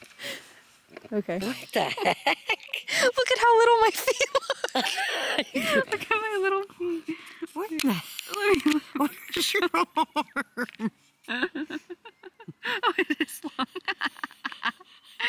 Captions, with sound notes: Okay. What the heck? Look at how little my feet look. (laughing) Look at my little feet What in the --- Where’s you arm? (laughing) oh. it is long. (laughing)